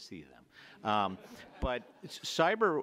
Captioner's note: audience laughs